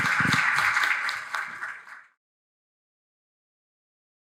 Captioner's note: audience applauds